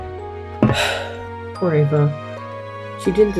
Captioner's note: sigh